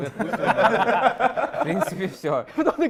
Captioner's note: laughter